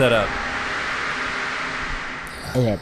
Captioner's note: mechanical whirring continues